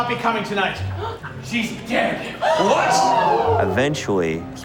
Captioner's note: gasps